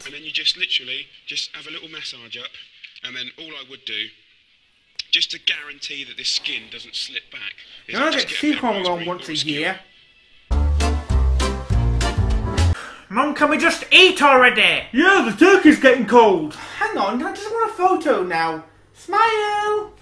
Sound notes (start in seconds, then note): 12.8 sigh